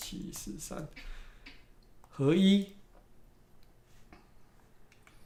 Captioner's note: speaking in Chinese